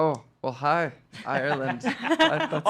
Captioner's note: laughing